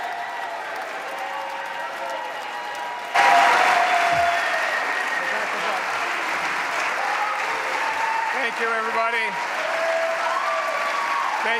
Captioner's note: cheers and applause